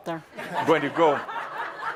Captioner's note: laughter